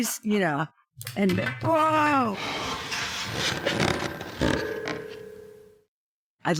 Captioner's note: minor crashing from live show